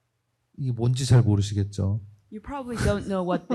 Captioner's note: speaking korean